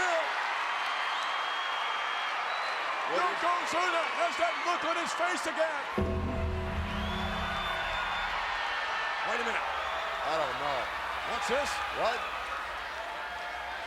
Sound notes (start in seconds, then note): 0.4 applause; 6.1 applause; 13.5 applause